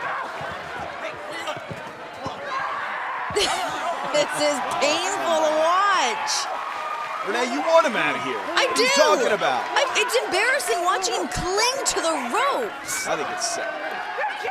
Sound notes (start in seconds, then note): 6.0 cheers & applause